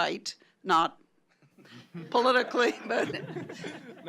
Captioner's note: chuckling